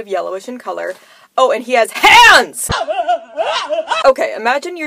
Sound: crying noises

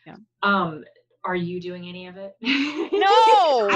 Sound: laughing

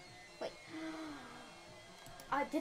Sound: gasp

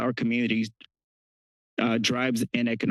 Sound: pause

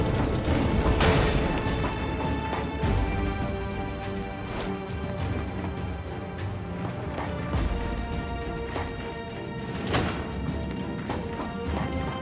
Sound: footsteps

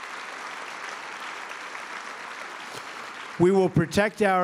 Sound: applause

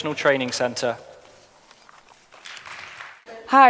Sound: applause

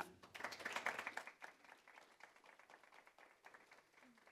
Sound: applause

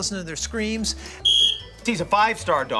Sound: whistle blows

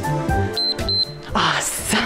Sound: timer beeps

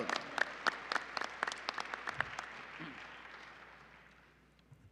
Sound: applause

